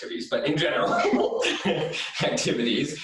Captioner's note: laughs